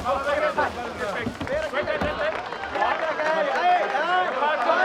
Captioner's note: applause